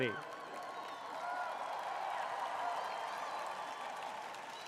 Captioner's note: cheering